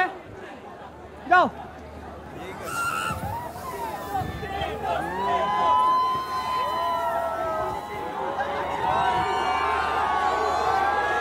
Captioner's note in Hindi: चियरिंग